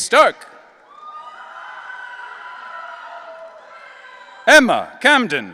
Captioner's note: audience cheering